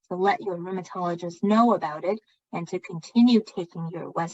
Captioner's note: speaking chinese